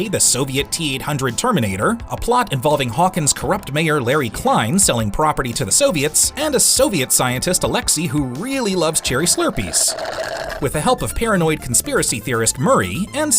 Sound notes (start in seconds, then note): 8.6 slurping